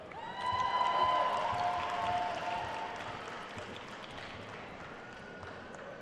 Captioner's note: attendees cheering and applauding